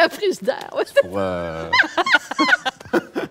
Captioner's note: laughs